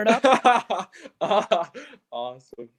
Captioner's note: laughs